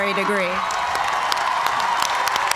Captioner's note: cheers and applause